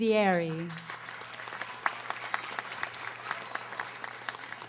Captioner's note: audience applauding